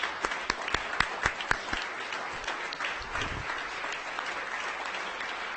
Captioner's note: audience applauding